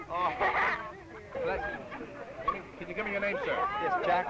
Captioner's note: laughing